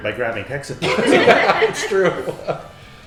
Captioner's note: all laughing